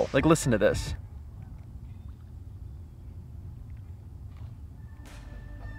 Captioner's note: branches rustling